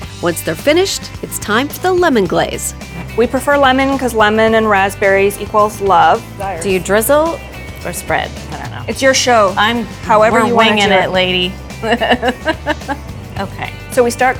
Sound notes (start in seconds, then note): 12.7 laughing